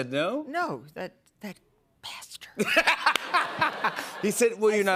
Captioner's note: laughter